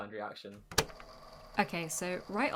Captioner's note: tape recorder clicking on